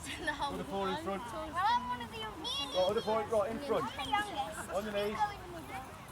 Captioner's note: general chatter